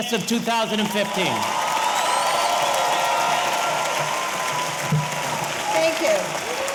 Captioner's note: audience applauding; audience cheering